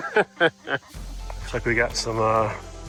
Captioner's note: laughs